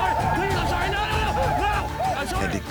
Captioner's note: war cries